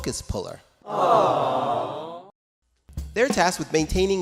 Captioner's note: audience goes "awwww"